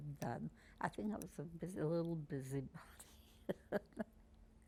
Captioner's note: laughing; pauses 10 seconds